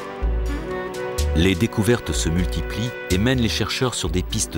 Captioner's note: French spoken audio